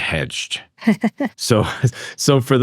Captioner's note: chuckling